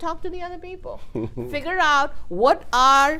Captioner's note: laughs